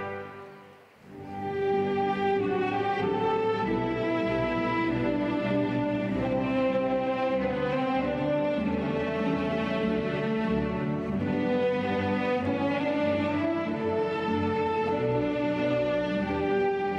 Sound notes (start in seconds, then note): none